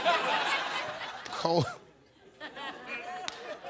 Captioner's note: audience laughs